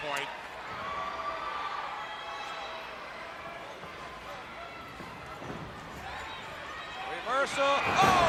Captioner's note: crowd chatter